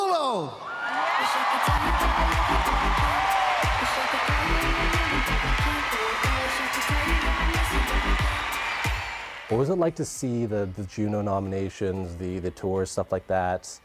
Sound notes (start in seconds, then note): 4.6 cheers and applause